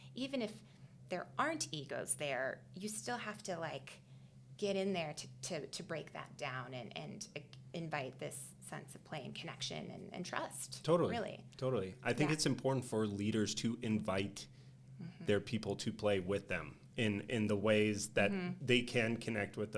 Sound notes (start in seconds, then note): none